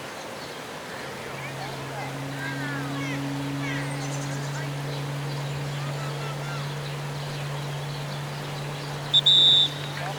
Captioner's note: birds singing; boat engine in the background; whistle blowing